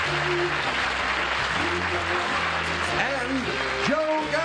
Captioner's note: applause